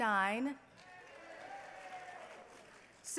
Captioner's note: cheering